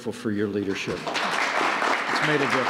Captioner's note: applause